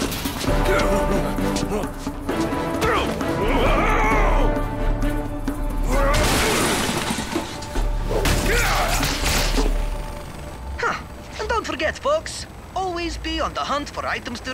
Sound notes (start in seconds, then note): 6.0 crashing